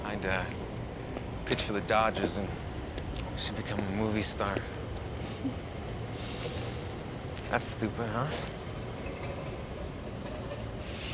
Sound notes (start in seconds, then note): 5.3 Lisa chuckles